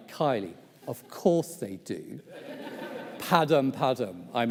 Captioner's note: audience laughs